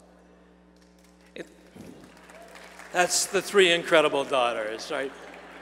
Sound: applause

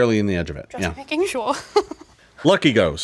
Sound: laughs

